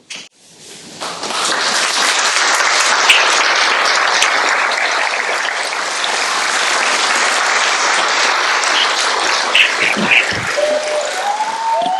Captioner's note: applause